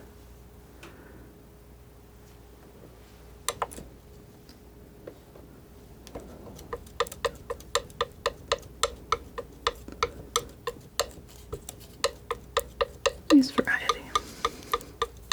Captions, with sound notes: [tapping] Nice variety.